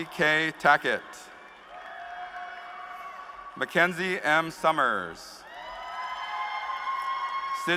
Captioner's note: cheers and applause